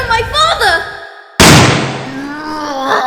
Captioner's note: bang!; loud, intense, and agonized scream!